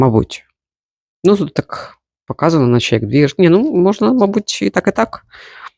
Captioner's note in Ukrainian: сопіння